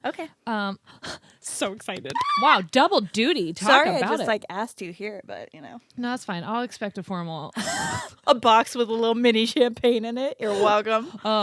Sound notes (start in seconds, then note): 7.6 both laughing